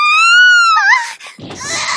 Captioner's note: screams; gasps